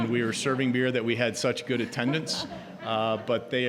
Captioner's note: audience laughing